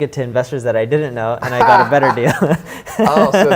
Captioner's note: laughs